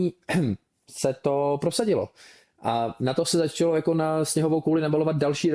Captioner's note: clears throat